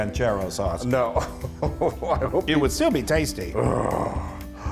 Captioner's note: laugh